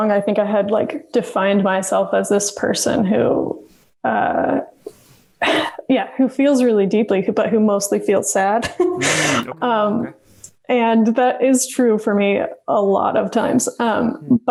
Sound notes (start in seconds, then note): 8.6 laughs